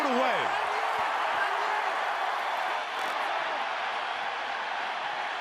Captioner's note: cheering